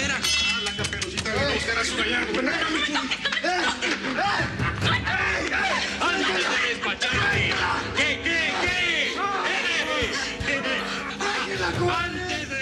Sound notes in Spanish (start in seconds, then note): 9.7 risas